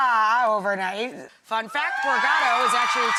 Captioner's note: crowd cheers loudly